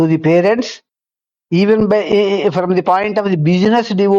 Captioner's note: none